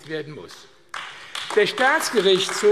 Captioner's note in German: Beifall AfD